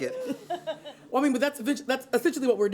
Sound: laughter

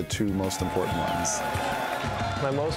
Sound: crowd cheering

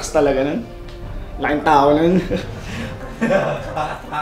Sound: laughter

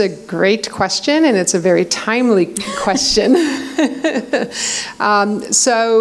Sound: laughs

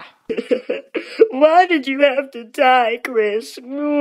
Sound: sobbing

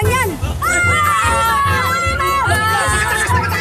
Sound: children screaming

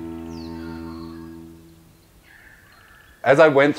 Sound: birdsong

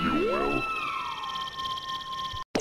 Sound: whimsical noise

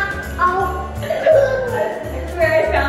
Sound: laughing; baby babbling

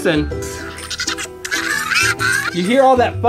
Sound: robot beeping

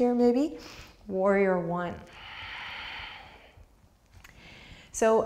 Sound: deep breath

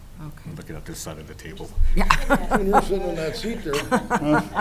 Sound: chuckling

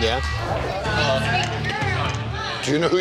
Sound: patrons chatting

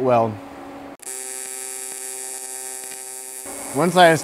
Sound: electric welding machine humming

